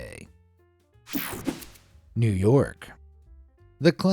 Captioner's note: air fizzing